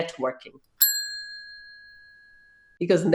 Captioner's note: bell rings